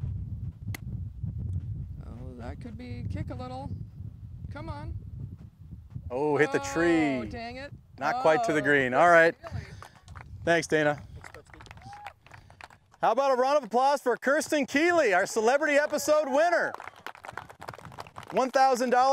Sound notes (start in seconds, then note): 15.6 applause